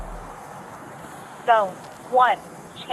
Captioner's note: radio chatter